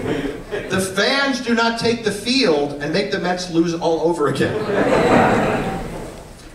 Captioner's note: laughter; laughter